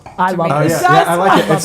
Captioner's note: laughing